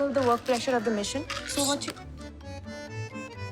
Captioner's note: sushing